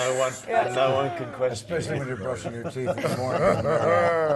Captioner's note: laugh